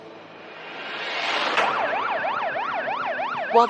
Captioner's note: siriren blariring